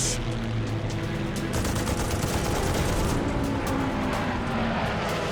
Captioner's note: gunfire